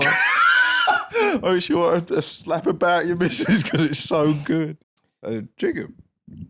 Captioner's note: laughs